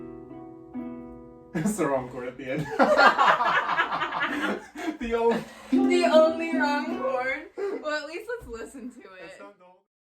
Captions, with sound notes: That was the wrong chord at the end. [both laugh] - The on- [strums guitar] - The only wrong chord Well, at least let's listen to it.